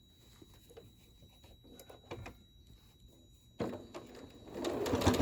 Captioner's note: sewing